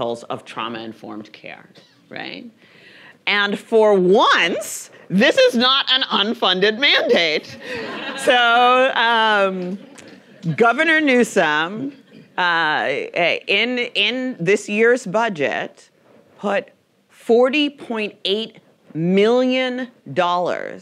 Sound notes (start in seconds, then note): 7.4 audience laughing